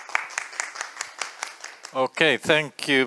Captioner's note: applause